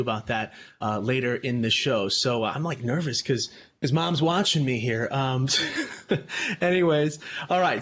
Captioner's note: chuckles